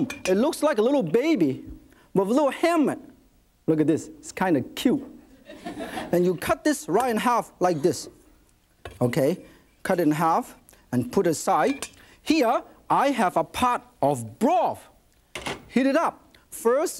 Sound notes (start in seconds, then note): 5.3 audience laughs